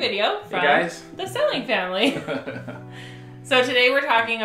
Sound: laughs

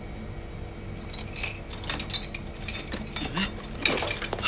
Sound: tools clanking

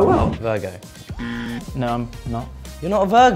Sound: buzzer

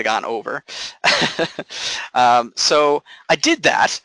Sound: laughing

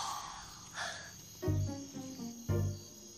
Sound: yawns; exhales; insects chirping

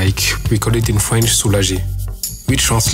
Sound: french

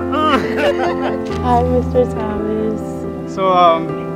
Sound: laughter

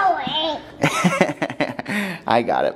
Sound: laughing

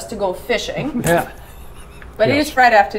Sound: chuckling

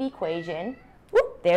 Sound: meowing

